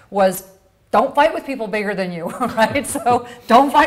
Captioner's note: laughs